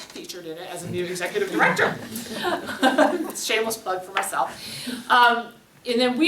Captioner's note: laughs